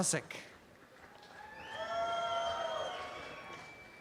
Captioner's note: audience cheering